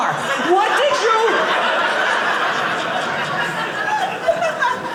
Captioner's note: audience laughing